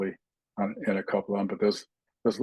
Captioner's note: indistinct chatting